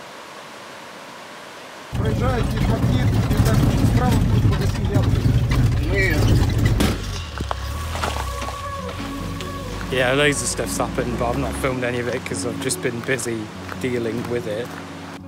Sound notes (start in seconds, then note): 1.9 man speaks in Russian